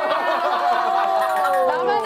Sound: hahaha

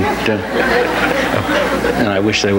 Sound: audience laughs

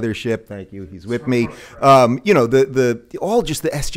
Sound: talking in background

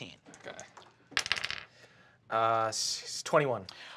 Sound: dice clack

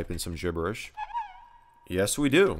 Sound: error sound

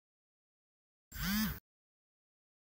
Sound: phone vibrates

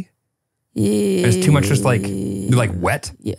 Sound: stammers

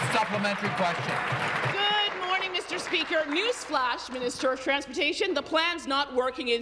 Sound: applause

